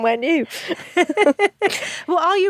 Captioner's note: both laugh